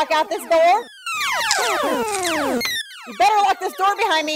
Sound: chip Munching

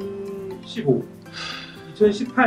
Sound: heavy sigh

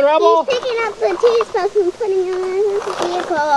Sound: voiceover

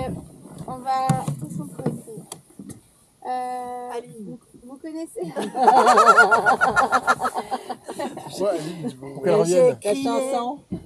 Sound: laughs

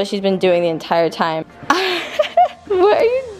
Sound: laughs

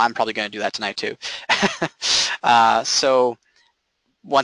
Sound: chuckling

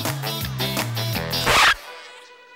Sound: scratches, music stops

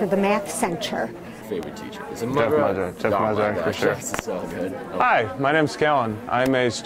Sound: background sound of students talking

